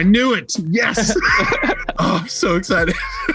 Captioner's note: laughs